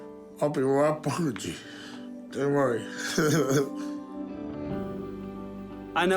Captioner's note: laughs